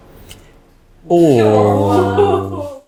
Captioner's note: ooooo